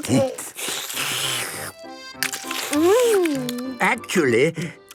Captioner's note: slurping